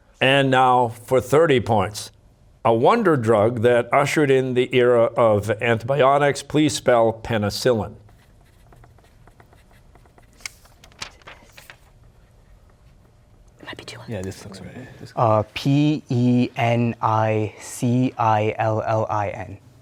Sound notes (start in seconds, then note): 8.0 pencils scribbling; 10.9 whispering